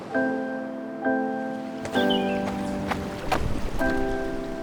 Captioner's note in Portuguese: canto de pássaro; som de passos